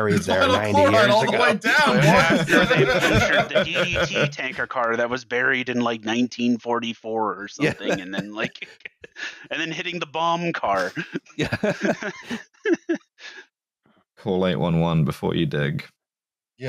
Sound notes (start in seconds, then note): 0.0 laughter; 13.5 laughs